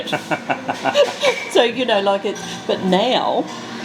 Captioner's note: laughs